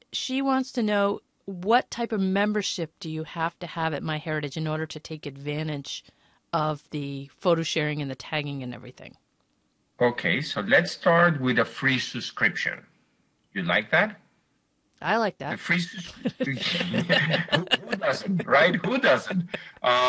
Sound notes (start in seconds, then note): 16.0 laughter